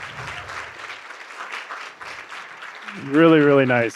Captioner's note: applause